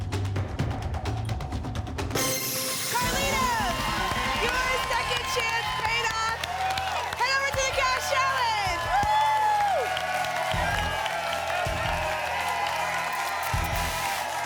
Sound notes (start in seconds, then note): 2.1 ping; 9.8 applause and cheering; 13.1 static